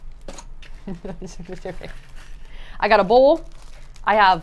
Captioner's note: chuckling